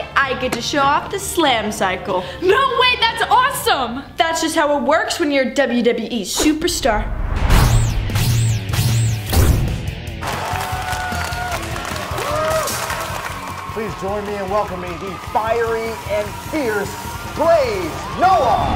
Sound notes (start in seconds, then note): 6.4 electricity whizzing; 10.5 crowd cheering; 12.2 crowd applauding